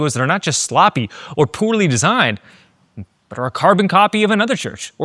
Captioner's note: none